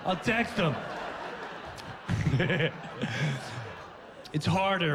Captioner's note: laughs